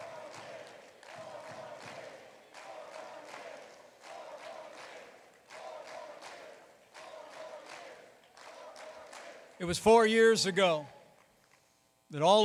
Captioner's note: chanting "four more years"